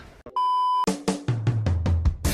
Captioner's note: beep; funky music